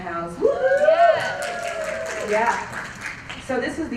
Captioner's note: applause